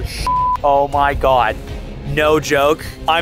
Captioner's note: beep